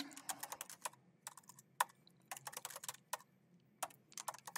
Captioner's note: keyboard clacking